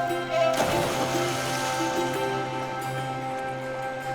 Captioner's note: water whooshing